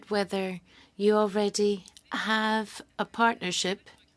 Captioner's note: speaking french